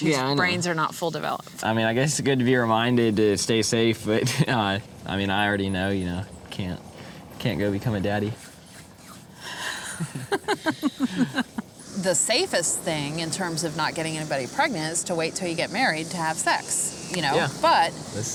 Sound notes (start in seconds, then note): 9.8 laughter